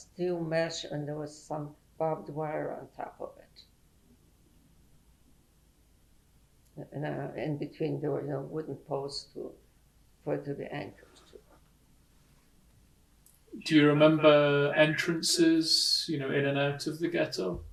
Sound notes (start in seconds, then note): 3.8 pauses for 3 seconds